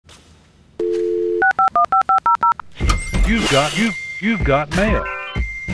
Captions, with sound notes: (dial tone) (dialing) (upbeat music) - You've got ... you've got .. You've got mail!